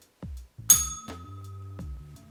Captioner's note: bell rings